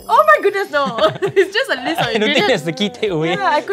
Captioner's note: laughs